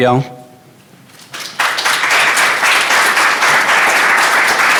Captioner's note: applause